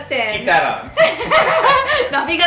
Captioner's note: laughing